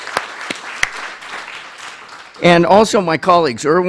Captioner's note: applause